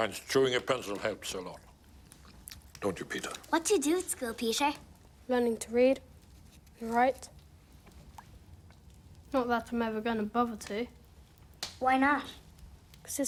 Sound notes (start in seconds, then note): none